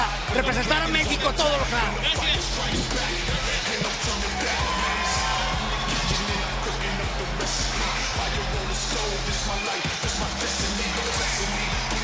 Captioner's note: spanish language